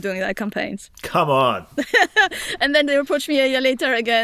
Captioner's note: laughs